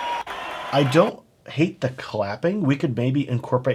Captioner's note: crowd cheering